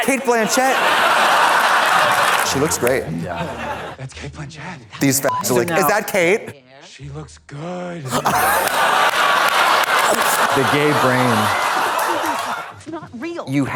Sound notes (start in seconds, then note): 0.0 audience laughs; 5.2 beep; 8.0 audience laughs